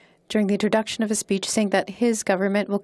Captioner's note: speaking in French